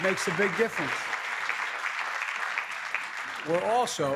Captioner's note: applause